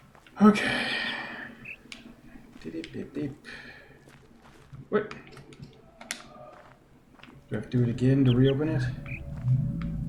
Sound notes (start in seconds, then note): 0.6 sighing; 0.9 imitates chirping; 0.9 bird chirps ˥ ˥ ˩ ˧; 7.7 bird chirps ˥ ˥ ˩ ˧